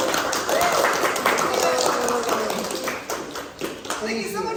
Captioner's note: applause